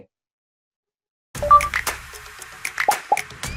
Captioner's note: percussive music; dots beeping; icon popping